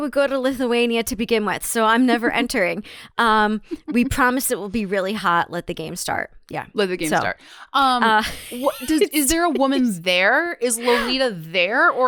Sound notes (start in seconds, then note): 8.1 laughs